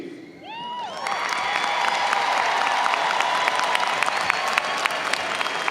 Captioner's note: audience cheers and applauds